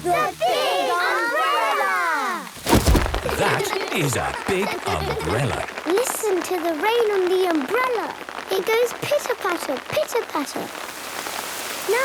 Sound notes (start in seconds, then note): 2.5 big umbrella opening; 5.9 raindrops pitter-pattering